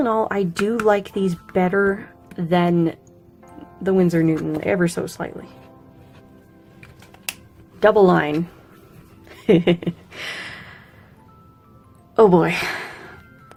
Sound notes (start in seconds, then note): 9.3 laughs